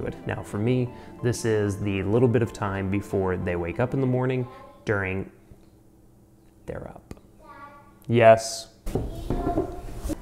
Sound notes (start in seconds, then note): 5.3 child speaking in background